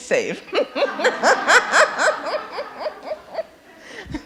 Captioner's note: laughing erupts